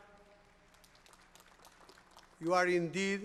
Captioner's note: applause